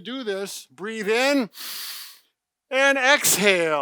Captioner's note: inhales